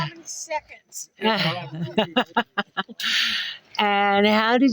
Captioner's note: laughing